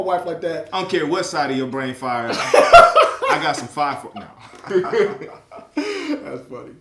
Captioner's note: laughs